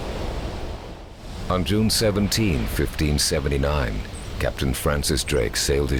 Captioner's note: voiceover